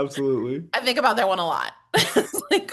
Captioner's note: laughs